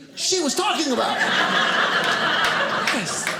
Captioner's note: audience laughing